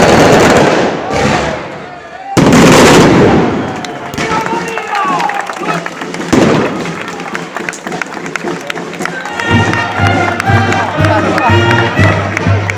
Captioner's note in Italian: Applauso